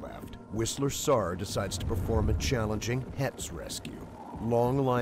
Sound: voiceover

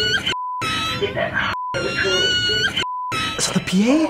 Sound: woman on intercom; child wails; woman on intercom; child wails

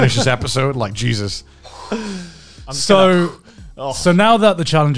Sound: exhales deeply

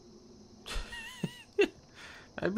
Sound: laughs

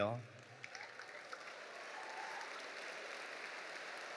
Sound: audience applauding

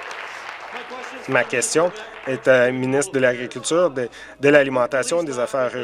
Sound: applause

